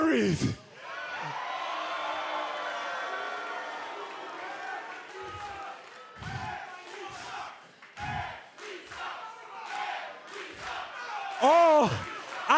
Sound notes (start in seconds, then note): 0.8 cheers and applause; 7.9 fans chanting